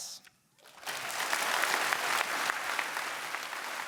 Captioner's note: applause